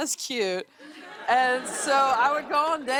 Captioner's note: laughter